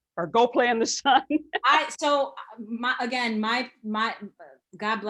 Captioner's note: laughing